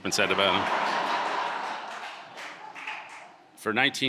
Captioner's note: audience laughing